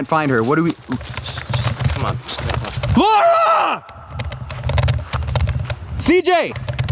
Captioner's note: screaming